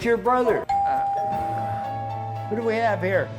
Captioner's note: doorbell